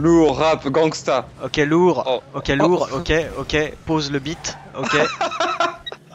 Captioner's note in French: rires